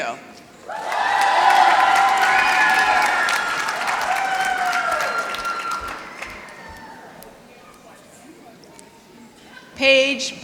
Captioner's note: applause